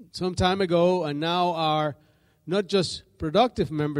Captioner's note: none